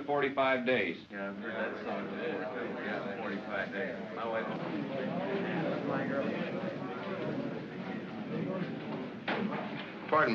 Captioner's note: men grumble